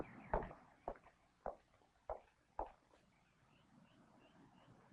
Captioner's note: heels clacking